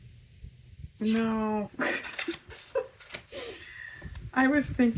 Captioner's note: laughs